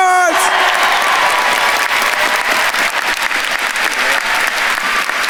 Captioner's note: attendees cheering and applauding